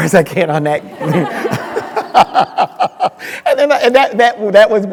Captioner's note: crowd laughing